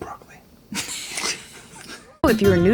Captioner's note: laughing